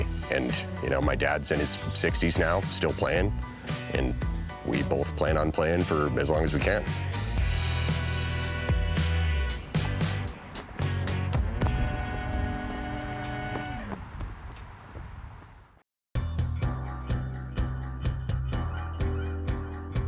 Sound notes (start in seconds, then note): 6.9 upbeat music; 13.8 wind rustling